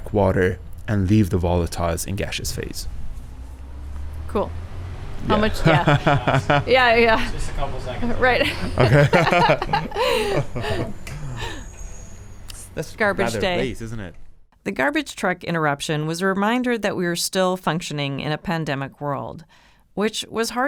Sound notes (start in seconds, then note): 3.9 sound of a garbage truck going; 8.0 laughs